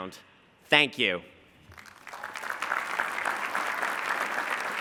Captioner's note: applause